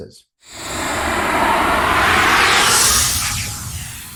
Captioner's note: air whooshing